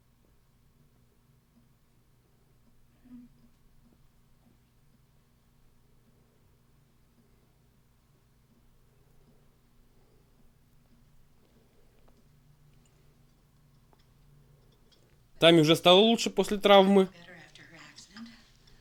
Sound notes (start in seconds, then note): none